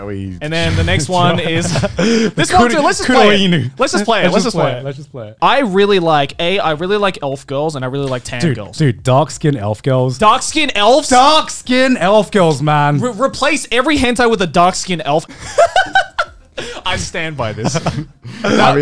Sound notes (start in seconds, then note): 15.3 laughs